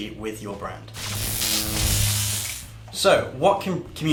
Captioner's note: electric buzz